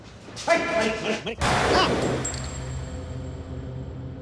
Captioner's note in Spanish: Disparo